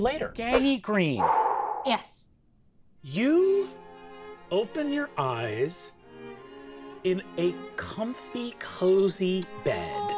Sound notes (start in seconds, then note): 1.2 exhaling; 1.2 swooshing sound